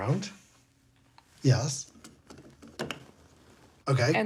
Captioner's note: object rustling